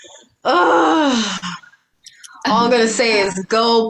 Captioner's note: exclaims